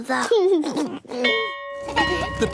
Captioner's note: giggles; bell ringing